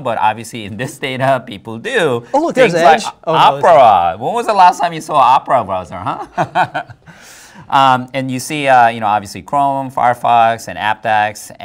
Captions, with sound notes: but obviously in this data, people do. Opera, when was the last time you saw Opera browser, huh? [both laugh] And you see, obviously, Chrome, Firefox, and Apdex,